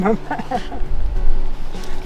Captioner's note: laughs